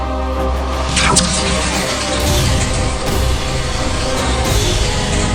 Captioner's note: dramatic music; laser whooshing